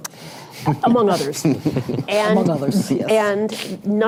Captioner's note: laughter